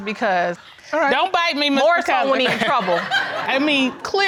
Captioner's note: audience laughs